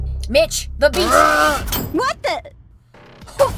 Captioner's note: Mitch yells